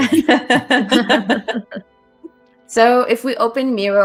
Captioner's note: laughter